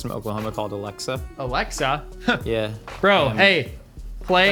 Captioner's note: chuckles